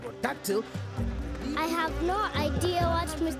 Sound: insects buzzing

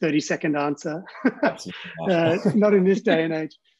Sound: chuckles

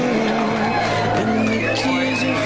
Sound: audience cheering

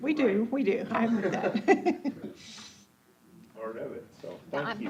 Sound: laughing

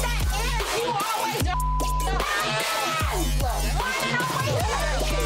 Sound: beep

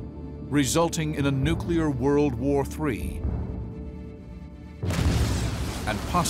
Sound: explosion

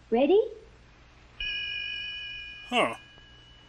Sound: ding!

